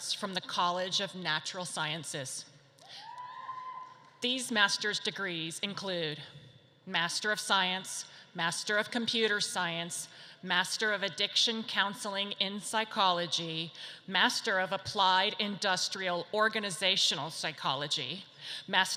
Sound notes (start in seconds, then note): 3.1 audience cheers